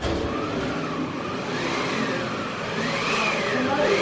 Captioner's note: machine whirring